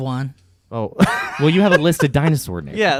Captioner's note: laughing